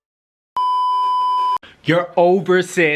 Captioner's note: beeeeeeeeeeeep